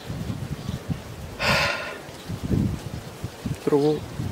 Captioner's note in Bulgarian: Въздишане